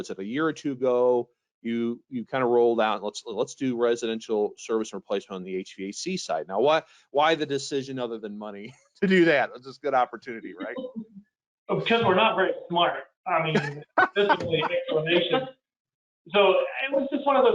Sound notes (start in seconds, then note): 13.5 laughing